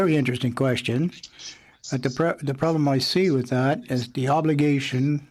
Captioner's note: speaking French